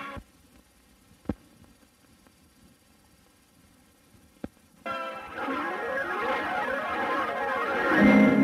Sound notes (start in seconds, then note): 0.0 VHS static; 5.1 swirling sounds resuming